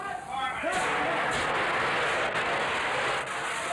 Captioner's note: fire extinguishers whooshing